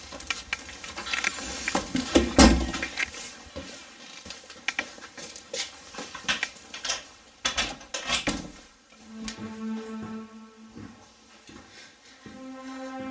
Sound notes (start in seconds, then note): 0.0 rustling sound; 2.2 door closes; 4.4 footsteps; 8.0 door opening and closing; 9.0 piano music playing; 11.1 footsteps